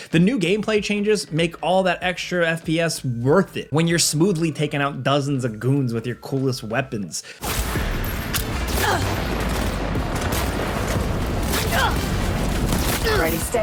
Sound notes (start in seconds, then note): 7.4 gunfire banging; 8.9 character groans; 9.8 gunfire banging; 11.6 character groans; 12.7 gunfire banging